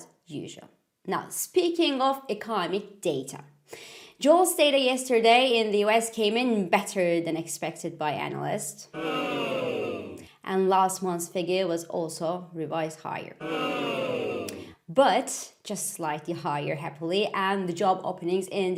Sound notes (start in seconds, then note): 8.9 ooooohhh; 13.4 oooooh